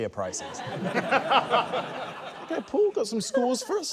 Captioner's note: laughter